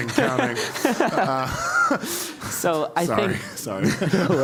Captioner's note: laugh